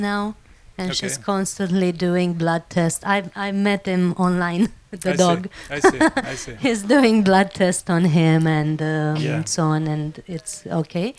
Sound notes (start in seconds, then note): 5.0 laugh